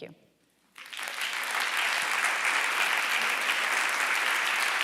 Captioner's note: audience applauding